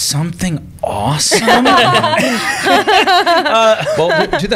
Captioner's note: laughter